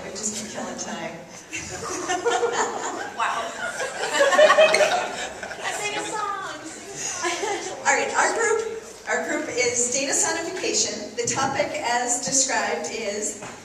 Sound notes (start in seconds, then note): 1.6 laughs